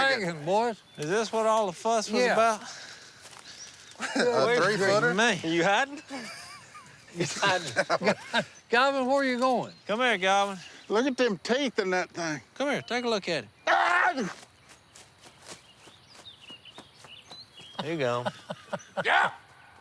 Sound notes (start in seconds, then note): 6.2 laughs; 13.6 screams